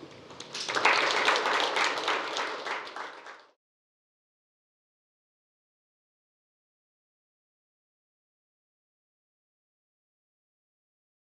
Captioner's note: applause